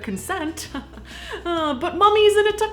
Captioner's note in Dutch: Gegrinnik